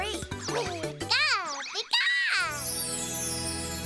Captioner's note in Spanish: emocionado